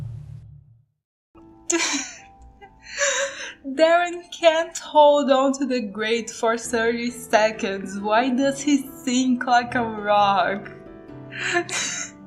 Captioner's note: laugh